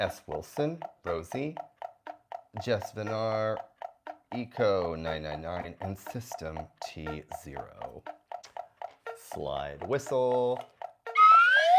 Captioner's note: slide whistle sound effect